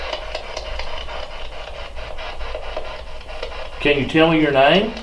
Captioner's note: static; clicking